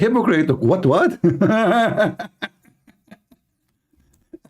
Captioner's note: Ketawa